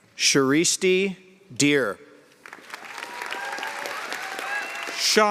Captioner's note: cheers and applause